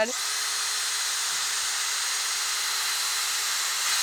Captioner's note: drill buzzing